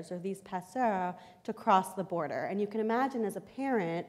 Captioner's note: foreign language